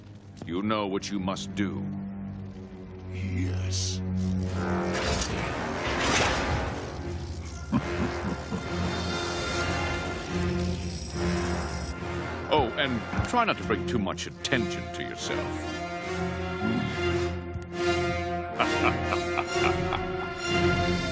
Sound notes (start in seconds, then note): 7.5 chuckling; 16.6 grunting; 18.5 laughing